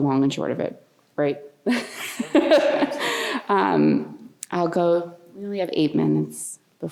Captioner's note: laughter